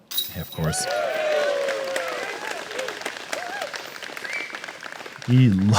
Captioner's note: cheering; applause